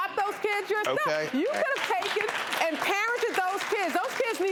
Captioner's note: crowd claps